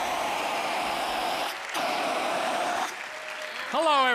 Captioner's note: blasts fire extinguisher; fire extinguisher hisses; cheers and applause